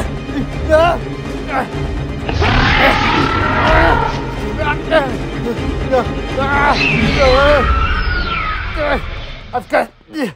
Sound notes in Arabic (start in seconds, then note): 1.1 موسيقى مكثفة; 4.1 رجل يشخر; 7.3 هرمس يزأر